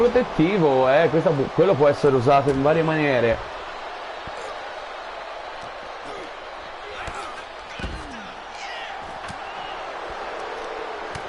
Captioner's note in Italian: Applauso